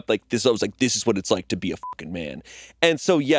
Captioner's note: beeping